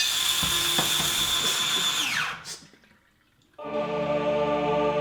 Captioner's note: machine sound; choir singing